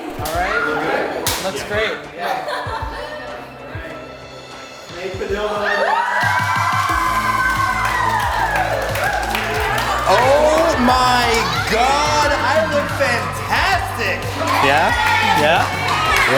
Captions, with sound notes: All right? Look good? -It looks great. -Maid Padildo, everyone. [cheering] Oh my God. I look fantastic.